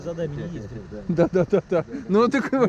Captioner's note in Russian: смеется